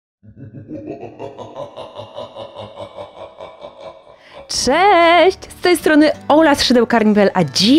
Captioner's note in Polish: śmiech